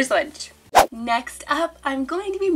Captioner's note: air whooshing